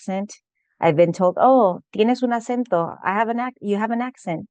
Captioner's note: speaking spanish